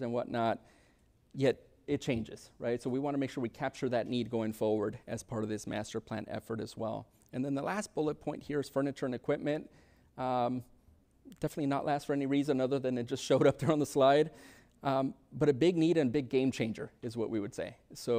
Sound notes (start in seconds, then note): 13.9 chuckles